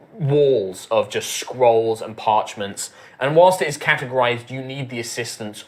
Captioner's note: none